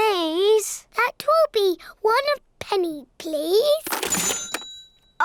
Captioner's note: dings